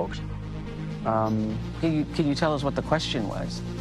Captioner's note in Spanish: AUDIO EN INGLéS